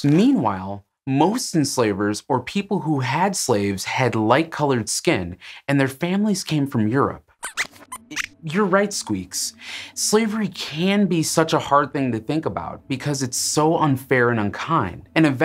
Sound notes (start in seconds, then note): 7.4 squeaks squeaks